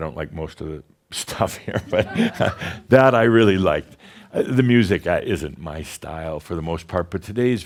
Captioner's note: chuckles